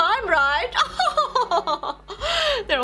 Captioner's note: laughing